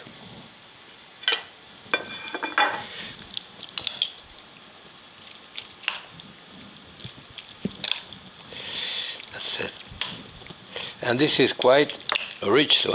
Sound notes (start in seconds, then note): 2.0 dish knocking; 7.3 spoon stirring